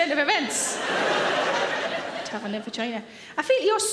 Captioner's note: audience laughs